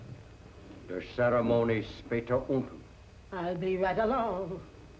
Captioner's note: speaking german